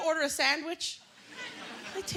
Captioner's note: laughter